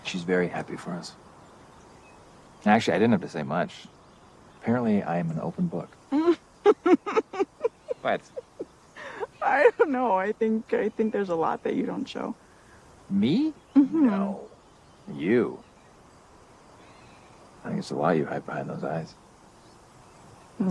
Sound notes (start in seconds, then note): 6.6 laughs